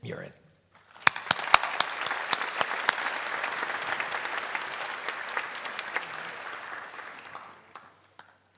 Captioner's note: applause